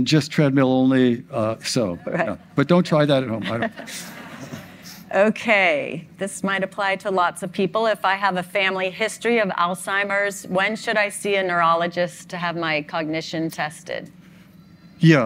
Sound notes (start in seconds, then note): 3.4 all laugh